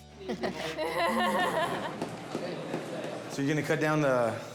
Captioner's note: laughs